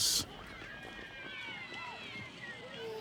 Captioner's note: children chattering